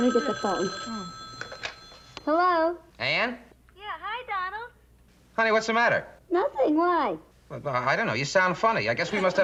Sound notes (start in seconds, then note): 4.4 on phone